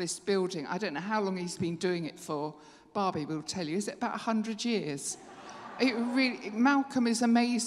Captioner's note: laughter